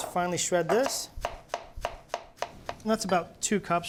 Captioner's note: knife slices